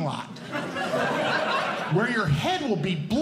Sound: audience Laughing

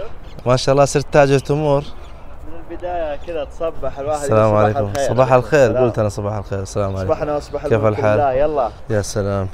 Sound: Arabic

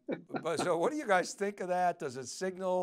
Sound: laughs

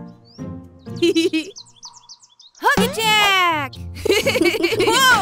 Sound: giggling

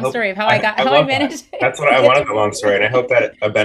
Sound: laughs

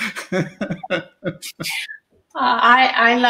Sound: laughter

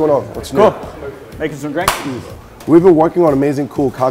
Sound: hands clap

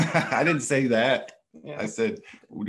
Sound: laughing

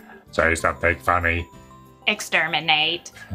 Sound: robot voice; Dalek voice

